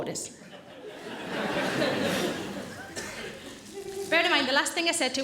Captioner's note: audience laughing